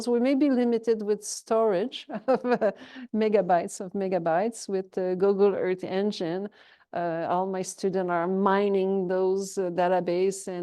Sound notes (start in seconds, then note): 2.2 chuckles